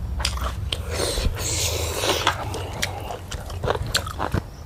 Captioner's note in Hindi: नाक से की जाने वाली आवाज़